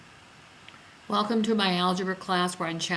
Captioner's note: voiceover